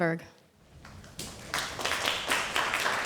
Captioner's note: applause